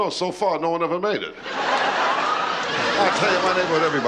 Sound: audience laughing

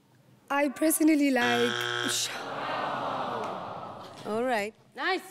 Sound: buzzer buzzes

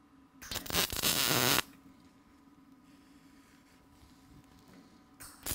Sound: welding torch buzzing

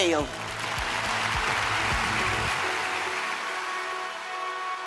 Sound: audience applauding

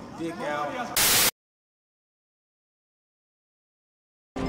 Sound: static

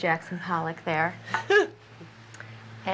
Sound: chuckles

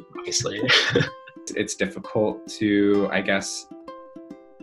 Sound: laugh

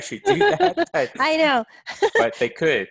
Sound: laughs

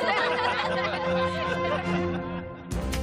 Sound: laughing

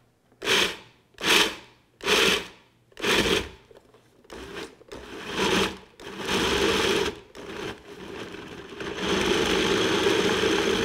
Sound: mixer pulsing

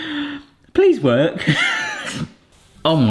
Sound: laughs

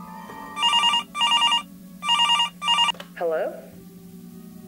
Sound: phone ringing

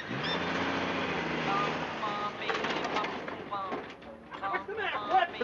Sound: engine rumbling

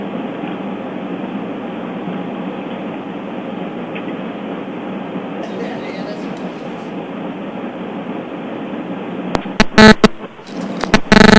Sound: buzzing

